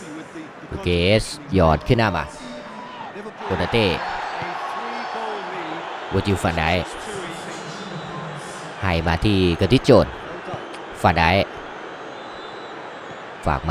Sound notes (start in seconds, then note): 5.6 applause